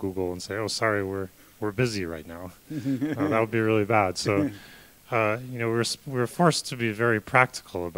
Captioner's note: laughter